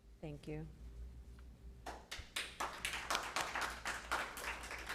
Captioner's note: applause